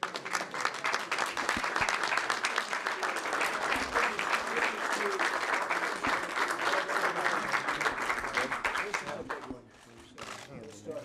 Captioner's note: applause